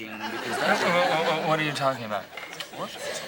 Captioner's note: stammers